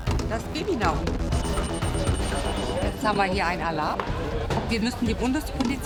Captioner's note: beep